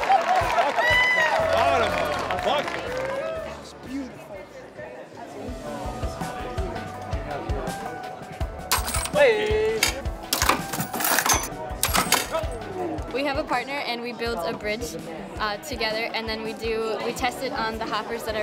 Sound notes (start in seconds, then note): 3.7 cheering; 8.6 bright piano music